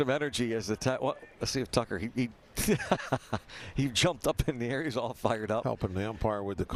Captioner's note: laughter